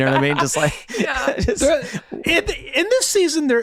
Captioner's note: laughing